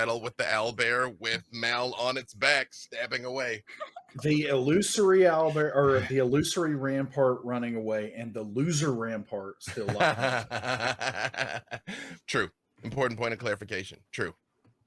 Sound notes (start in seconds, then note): 9.7 laughing